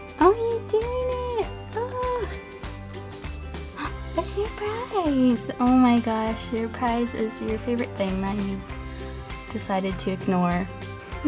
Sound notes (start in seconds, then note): 3.5 gasp